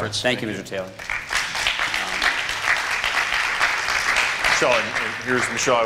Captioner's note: applause